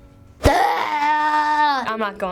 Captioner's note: frustrated scream